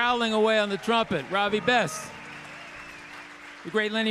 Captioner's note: audience cheering